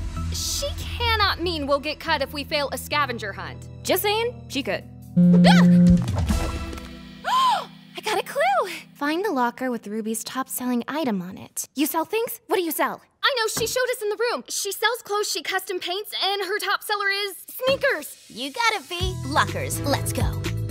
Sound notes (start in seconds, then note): 5.2 phone buzzing; 7.2 gasping